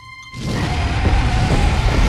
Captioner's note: roars